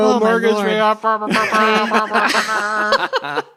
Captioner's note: imitates horn; laughs